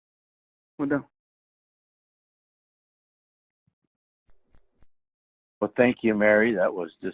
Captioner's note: speaking in foreign language